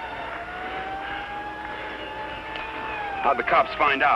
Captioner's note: distant sirens blaring